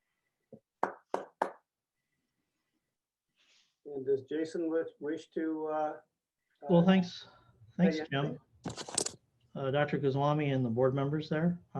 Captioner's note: applause